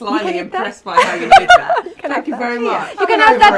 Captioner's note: laughs